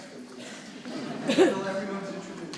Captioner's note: audience laughs